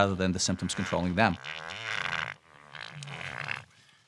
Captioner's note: farting sound